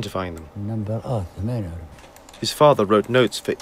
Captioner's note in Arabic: يتحدث لغة أجنبية